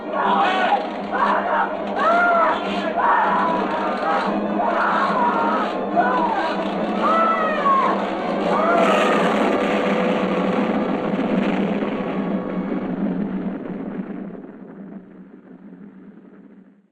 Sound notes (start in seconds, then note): 1.9 Krenner screaming; 8.9 explosion booming